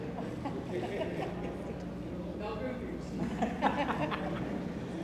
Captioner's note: people chuckling